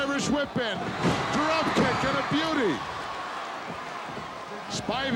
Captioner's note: audience cheering